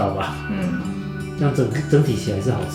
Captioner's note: nonverbal grunt as interjection